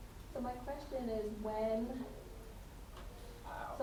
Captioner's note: attendee Through Translator